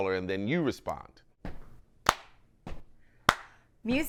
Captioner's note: both clapping and stomping